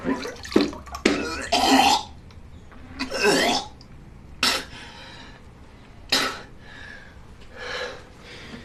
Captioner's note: vomits, spits